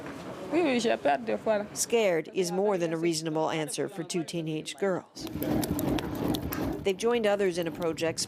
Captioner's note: speaking foreign language